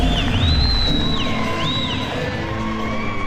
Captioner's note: crowdCherring and whistling!